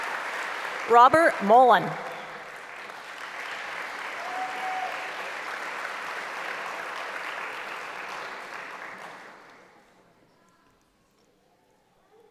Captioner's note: applause; applause